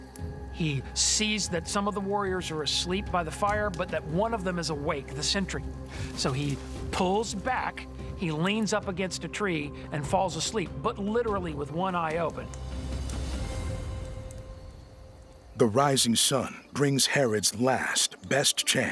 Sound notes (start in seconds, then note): none